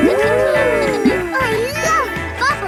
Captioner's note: kids gasping and laughing